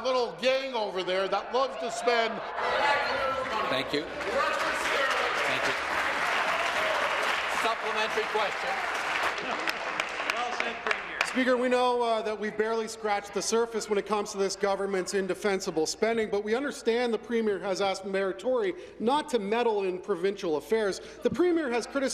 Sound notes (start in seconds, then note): 8.9 voice trailing